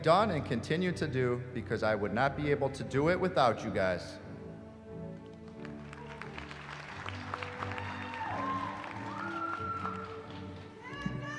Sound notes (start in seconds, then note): 5.4 applause